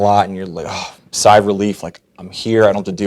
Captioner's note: sighs